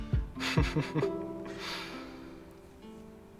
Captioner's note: Jasmine laughs